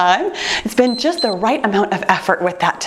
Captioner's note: timer beeps